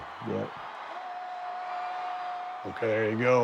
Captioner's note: crowd screams